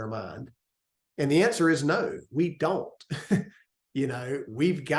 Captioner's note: laugh